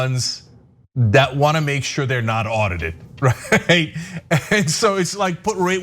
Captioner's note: laugh